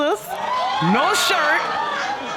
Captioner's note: audience gasping